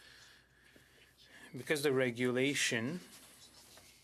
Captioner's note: speaking in French